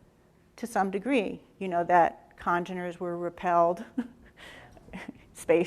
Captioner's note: laughs